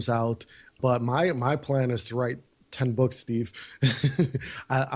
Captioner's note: laughs